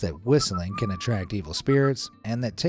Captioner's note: whistles softly